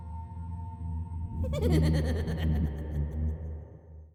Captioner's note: manic laughing